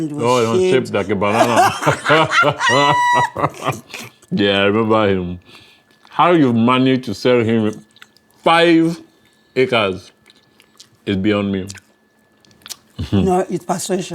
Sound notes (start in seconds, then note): 0.2 DARE and SADE laughing